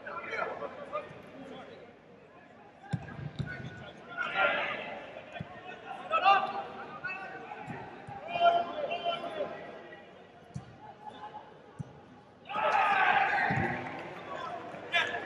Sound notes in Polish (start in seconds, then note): 13.3 Aplauz